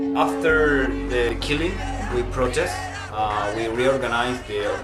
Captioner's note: protesters chanting